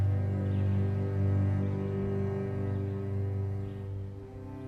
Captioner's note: birds chirping